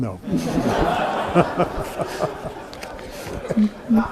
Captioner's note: everyone laughs